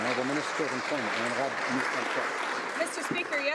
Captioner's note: some Applause